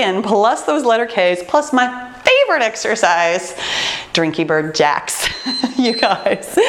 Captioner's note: timer beeping; laughs